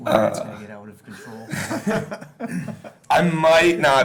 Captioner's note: laughing